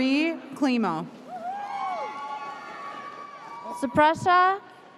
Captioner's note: audience whooping